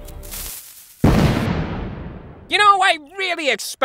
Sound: explosion

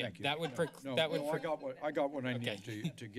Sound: laughter

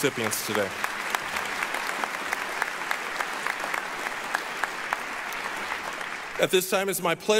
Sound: applause

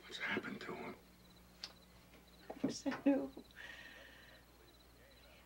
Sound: chuckles

